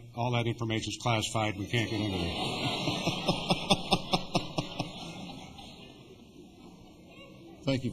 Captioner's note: laughter